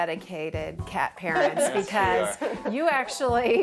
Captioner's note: laughs